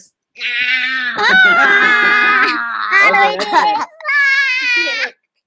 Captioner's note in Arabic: يصرخ ويضحك